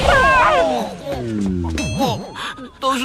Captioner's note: crying, upset, sobbing